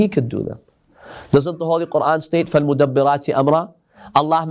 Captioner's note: Arabic